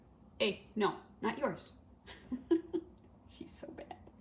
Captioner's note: laughter